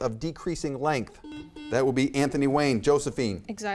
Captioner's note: buzzer beeps